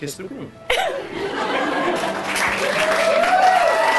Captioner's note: cheering and applause